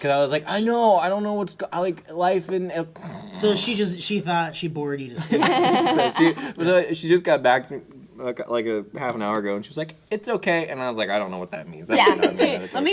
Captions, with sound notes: Because I was like, I know. I don't know what's-- like life and [SNORE]. So she thought she bored you to sleep. She just got back like a half an hour ago. And she was like, it's OK. And I was like, I don't know what that means. That may not mean that it's OK.